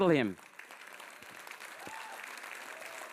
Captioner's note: audience applauds